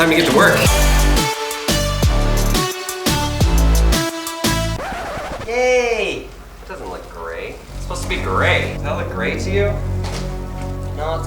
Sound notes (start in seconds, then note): 0.0 upbeat music; 4.7 record scratching